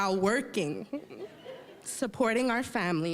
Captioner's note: audience laughing